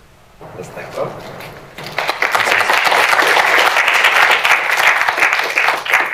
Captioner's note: applause